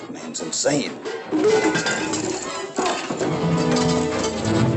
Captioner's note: scuffling, clattering